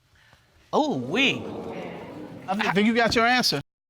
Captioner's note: audience exclaims